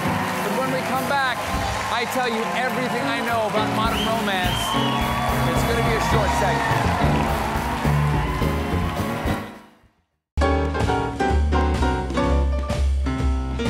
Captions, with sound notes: BUT WHEN WE COME BACK, I TELL YOU EVERYTHING I KNOW ABOUT MODERN ROMANCE. ( CHEERS AND APPLAUSE ) ( BAND PLAYING )